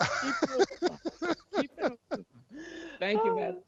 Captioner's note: board laughing